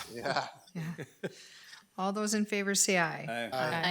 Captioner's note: all laugh; laughs